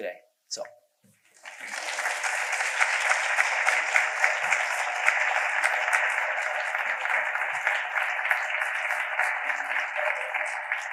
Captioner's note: audience applause